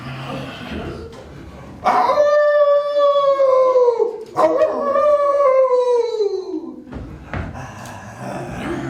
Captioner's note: growling gets louder and intensifies; howling; growling